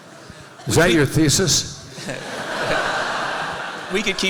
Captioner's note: laughter